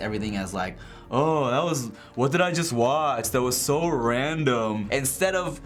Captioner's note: mockingly